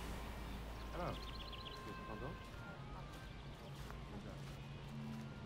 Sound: indistinct chatter

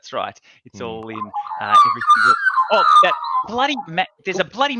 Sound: mapgie squawking drowns out speaker

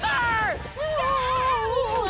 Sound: moaning

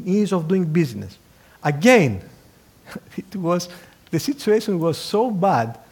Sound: laugh

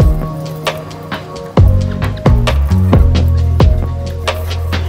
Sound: birds chirping

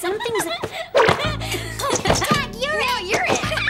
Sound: laughing

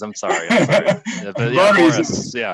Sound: laughs

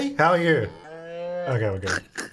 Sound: cow mooing

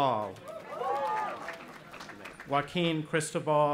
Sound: cheering

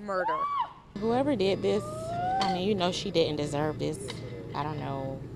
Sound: screaming

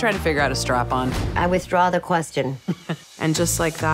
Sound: chuckles

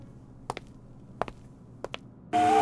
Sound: footsteps

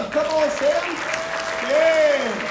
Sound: crowd clapping

